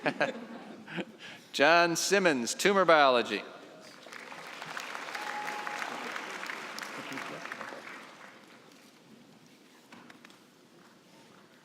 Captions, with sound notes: (laughter) John Simmonds, tumor biology. (applause)